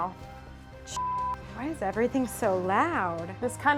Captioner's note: beep